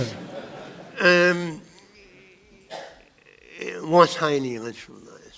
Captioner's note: audience laughter